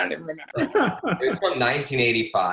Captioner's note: laughs